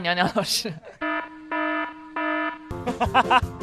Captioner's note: incoming laughter